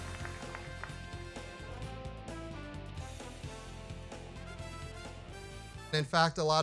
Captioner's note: applause